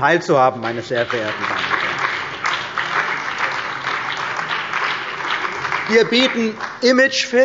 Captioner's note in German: Beifall bei der CDU und dem BÜNDNIS 90/DIE GRÜNEN